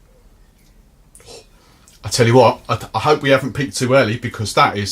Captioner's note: exhales